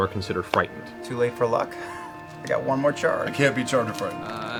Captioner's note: laughs